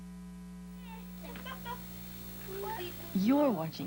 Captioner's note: laughs